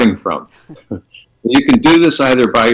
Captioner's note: both chuckle